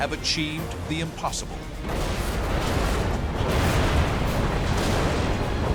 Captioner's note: explosions